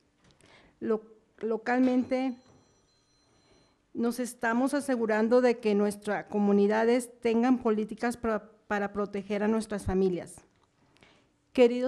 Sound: speaking spanish

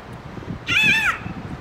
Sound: eagle screech

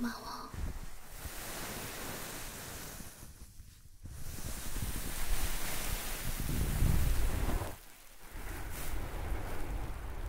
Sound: earmuffs covering sound

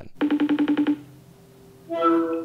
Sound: ringtone

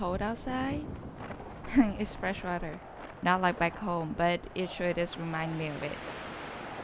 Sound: laughs

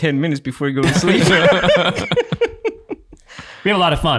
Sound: all laughing

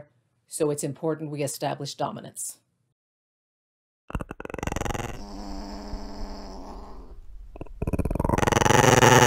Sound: growling

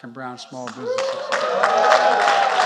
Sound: applause

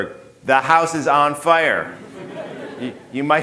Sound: audience laughing

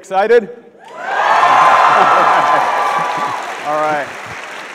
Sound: audience shouts

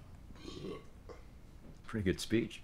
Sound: belching

